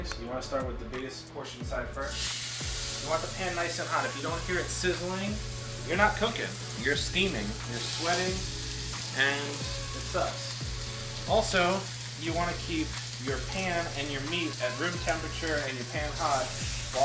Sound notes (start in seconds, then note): 2.3 pan sizzles